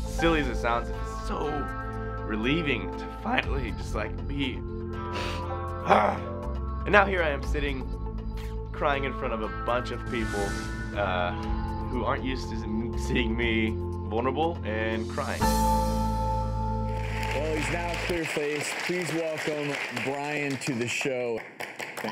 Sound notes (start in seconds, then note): 5.1 sniffs and sighs; 16.8 audience clapping